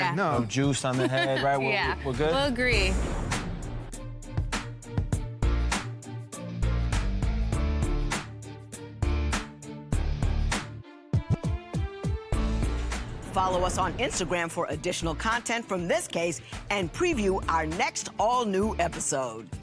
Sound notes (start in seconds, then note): 0.9 laughs; 10.3 upbeat rock music